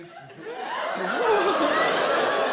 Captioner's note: audience laugh